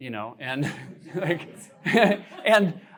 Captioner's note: laughter